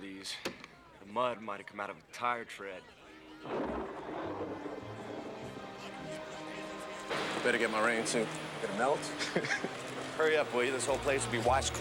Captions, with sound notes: THE MUD MIGHT HAVE COME OUT OF A TIRE TREAD. [THUNDER] DAMN. BETTER GET MY RAIN SUIT. GOING TO MELT? HURRY UP, WILL YOU? THIS WHOLE PLACE WILL BE WASHED CLEAN